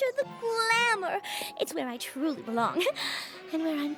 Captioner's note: giggles